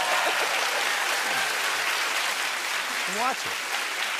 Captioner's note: applause